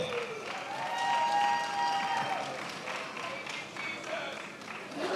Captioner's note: attendees applauding and cheering